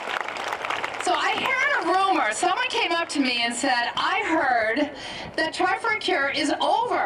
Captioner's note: applause